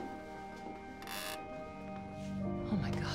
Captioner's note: floorboards creaking